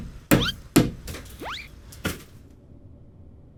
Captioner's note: hammering; slide whistle